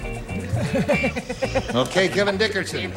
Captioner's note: laughter